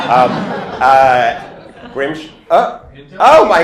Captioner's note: laughter